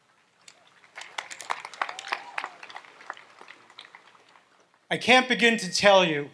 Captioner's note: audience applauds